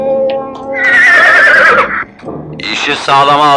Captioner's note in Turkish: At kişnemesi